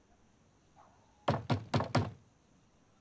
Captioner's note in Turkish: Kapı tıklama sesi